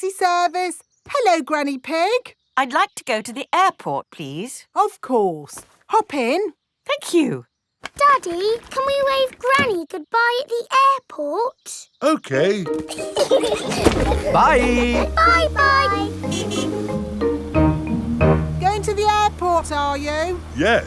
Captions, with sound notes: Taxi Service. Hello, Granny Pig! -I'd like to go to the airport, please. -Of course! -Hop in. -Thank you. Daddy, can we wave Granny goodbye at the airport? -Okay. -(LAUGHING) -Bye! -Bye-bye! (HORN HONKING) Going to the airport, are you?